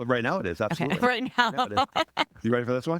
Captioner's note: laughing